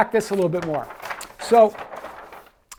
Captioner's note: paper rustling